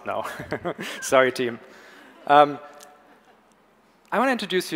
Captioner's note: audience laughs